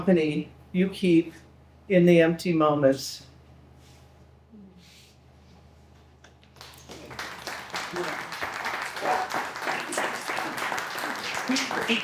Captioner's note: people clapping